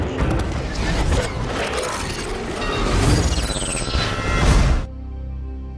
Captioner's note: machinery rattles and clanks